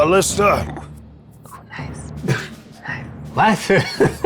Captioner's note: chuckling